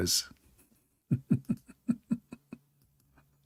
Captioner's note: laughing